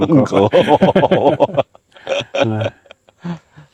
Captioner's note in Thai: เสียงหัวเราะ